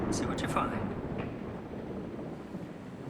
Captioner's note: rain falling; thunder